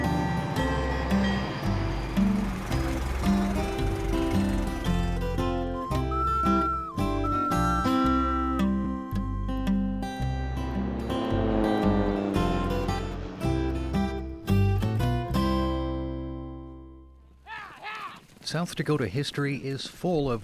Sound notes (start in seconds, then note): 0.2 train bell clanging; 2.7 car engine puttering; 5.6 flute trilling; 11.1 airplane engine buzzing